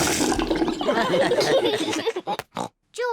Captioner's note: all laugh